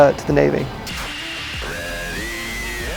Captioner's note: white noise